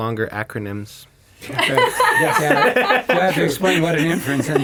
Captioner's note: all laugh